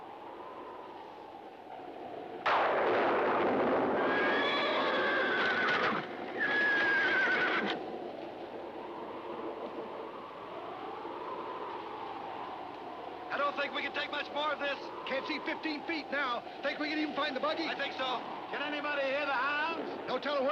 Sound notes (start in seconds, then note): 0.2 wind howling; 2.4 thunder crashing; 4.0 horses whinnying